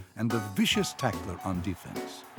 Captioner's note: cheering